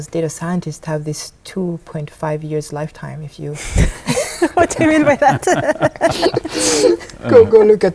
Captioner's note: laughing